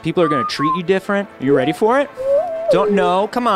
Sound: electronic whistling

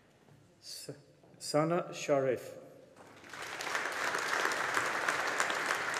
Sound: audience applauding

